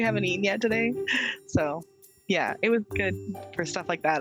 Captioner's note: chuckling